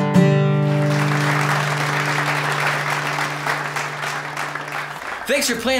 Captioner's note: clapping